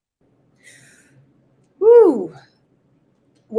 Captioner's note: inhales